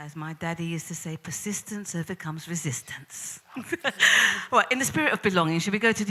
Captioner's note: laughs